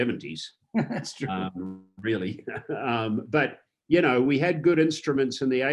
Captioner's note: laughs